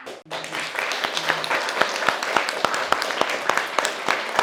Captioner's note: attendees applauding